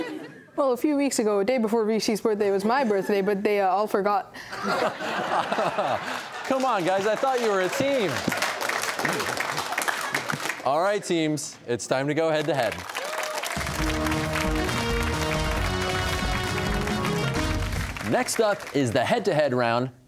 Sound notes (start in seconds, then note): 4.5 laughter; 8.6 applause; 12.3 applause